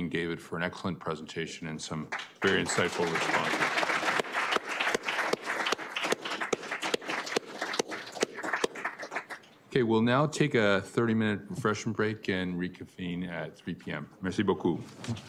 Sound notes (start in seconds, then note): 3.6 applause